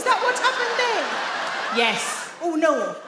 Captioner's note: audience laugh